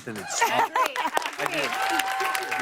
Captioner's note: cheers and applause